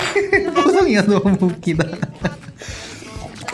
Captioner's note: laugh